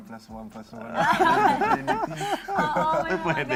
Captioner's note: laughter